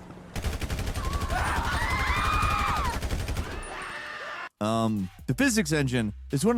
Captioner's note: gun firing; crowd screaming